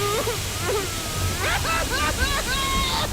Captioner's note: sobbing